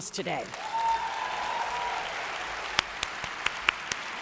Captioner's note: audience applauds